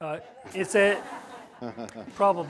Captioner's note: laughter